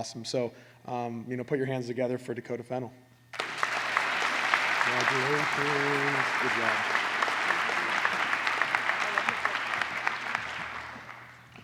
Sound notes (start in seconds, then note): 3.4 applause